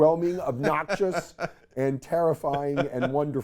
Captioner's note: laughs